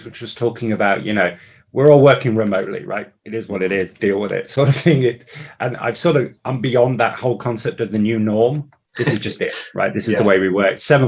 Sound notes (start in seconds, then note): 4.6 chuckles